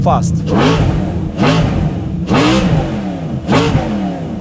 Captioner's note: engine revs